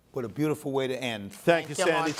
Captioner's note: applause